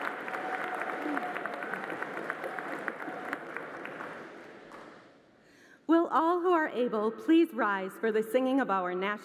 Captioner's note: applause